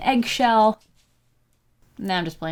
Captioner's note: pause